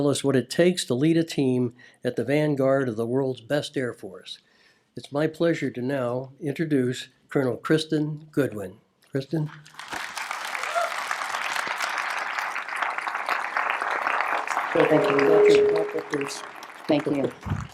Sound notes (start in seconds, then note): 9.4 applause